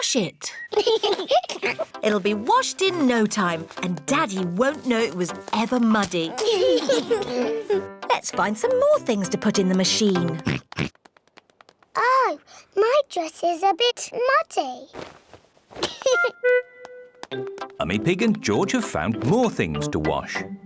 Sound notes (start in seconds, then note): 0.6 both giggle; 10.4 oinks; 15.8 giggles